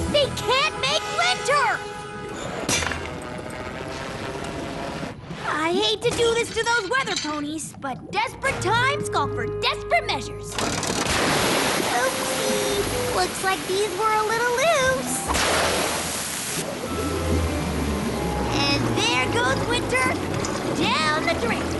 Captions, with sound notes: They can't make WINTER! I hate to do this to those weather ponies, but desperate times call for desperate measures! [pop] Oopsie! Looks like these were a little loose! [crash] And there goes winter...down the drain!